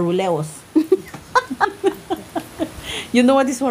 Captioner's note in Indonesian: Tertawa